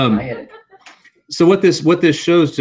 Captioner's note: laugh